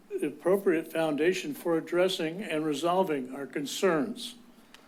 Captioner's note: none